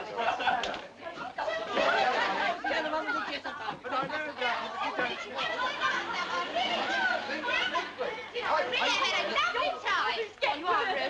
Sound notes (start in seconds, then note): 2.1 laughing, chattering; 8.6 people chattering indistinctly